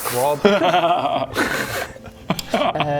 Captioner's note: disappointed laugh